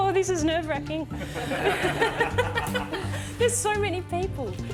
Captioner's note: others laugh; laughs